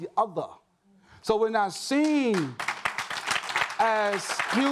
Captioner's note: audience claps